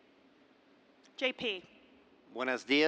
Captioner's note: speaks spanish